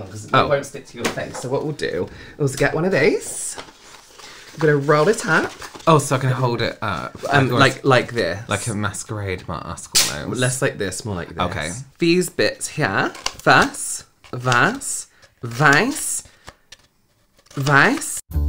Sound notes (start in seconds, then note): none